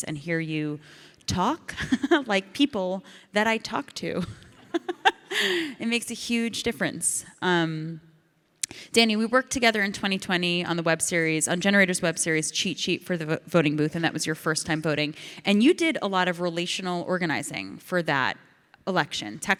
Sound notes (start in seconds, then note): 1.4 Ilana laughs; 5.5 audience laughs